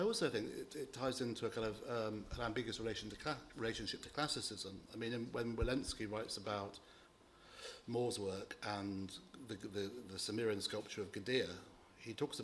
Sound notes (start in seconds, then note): none